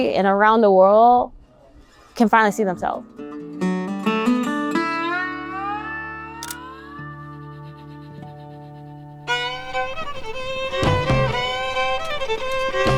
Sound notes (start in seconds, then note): 6.4 camera clicks; 9.2 upbeat country music